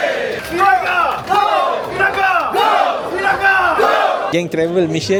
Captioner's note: cheer